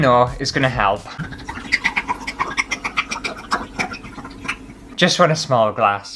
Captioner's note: wine Glugging